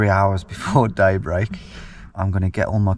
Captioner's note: laughs